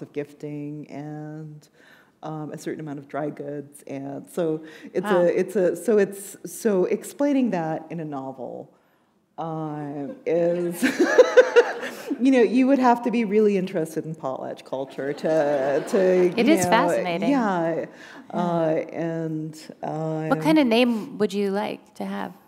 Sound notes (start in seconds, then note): 10.0 laughter